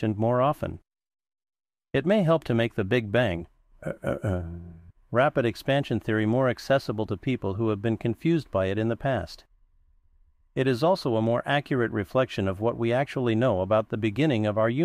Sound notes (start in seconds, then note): 3.8 clear throat